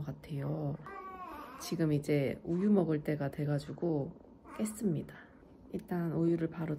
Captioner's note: crying